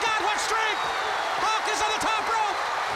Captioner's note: crowd cheering